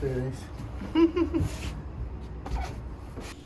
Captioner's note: chuckle